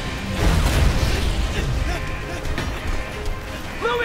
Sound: panting

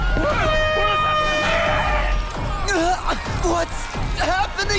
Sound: air horn wailing

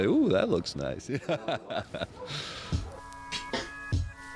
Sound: laughs

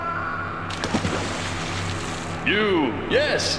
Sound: glass breaking and screaming; splash

